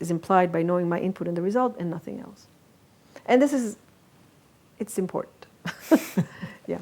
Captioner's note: laughs